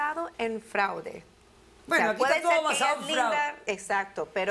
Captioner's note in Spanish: Hablan al unísono